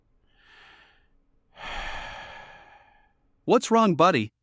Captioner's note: sigh